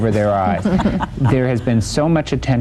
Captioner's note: laughter